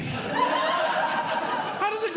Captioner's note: audience Laughing